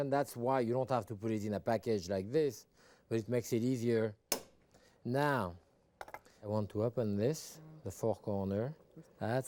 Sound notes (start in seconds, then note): 4.3 tongs tapping